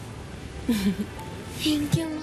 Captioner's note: Claudia chuckles